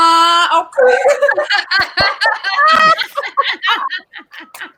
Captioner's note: all laugh